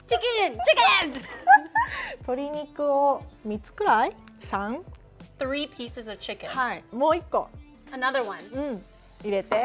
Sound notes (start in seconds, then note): 1.6 speaking Japanese; 7.1 speaking Japanese; 9.4 speaking Japanese